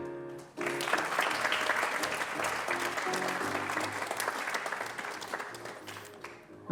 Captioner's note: applause